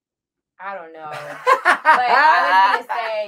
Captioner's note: laughs